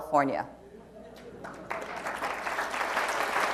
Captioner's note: applause